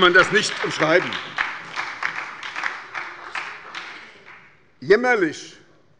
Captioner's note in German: Beifall bei der SPD und der LINKEN